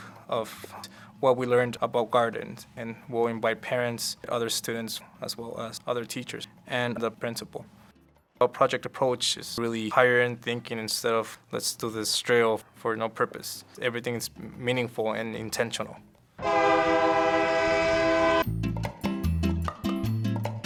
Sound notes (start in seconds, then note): 16.4 train honking; 18.4 upbeat Latin music